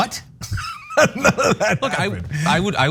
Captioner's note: laugh